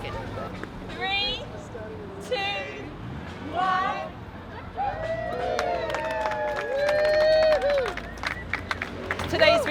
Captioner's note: cheers and applause